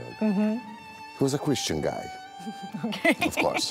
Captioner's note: laughing